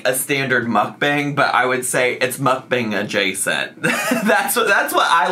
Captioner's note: chuckles